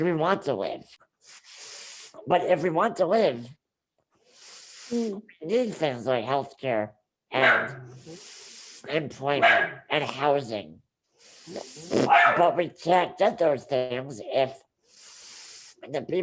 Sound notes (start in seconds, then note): 9.4 dog barks; 12.0 dog barks